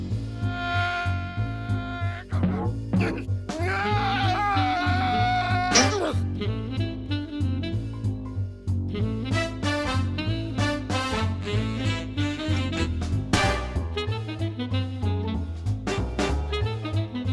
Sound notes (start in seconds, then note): 3.5 yelling